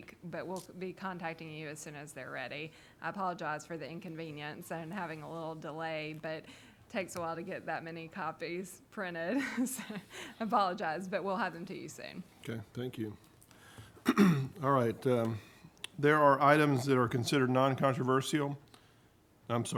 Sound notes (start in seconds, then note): 9.8 laughing; 14.0 clears throat